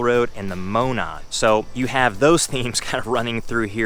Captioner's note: chuckling